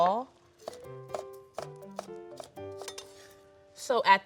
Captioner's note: knife chopping